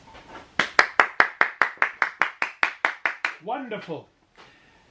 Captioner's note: applause